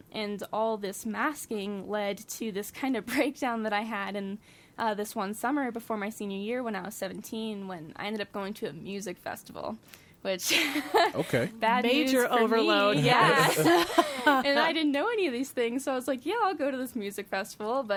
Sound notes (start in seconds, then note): 10.2 laughs; 12.7 laughing